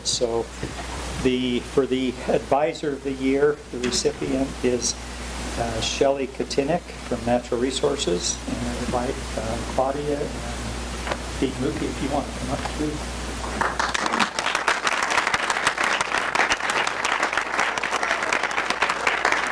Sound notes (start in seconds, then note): 13.5 applause